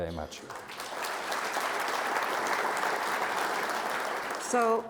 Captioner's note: audience applauds